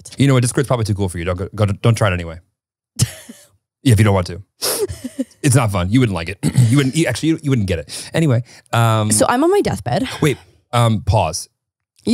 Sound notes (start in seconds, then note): 3.1 laughs; 6.2 clears throat